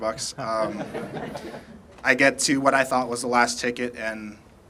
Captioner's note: laughter